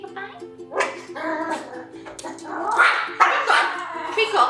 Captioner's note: barks and growls